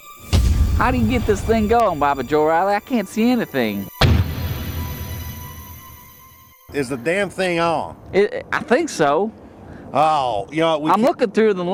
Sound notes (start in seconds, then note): 4.0 dramatic thud